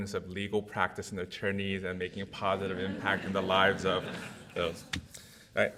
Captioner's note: audience laughs